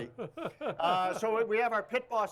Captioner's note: laughs